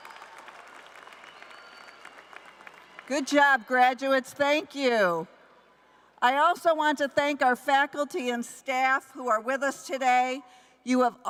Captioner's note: applause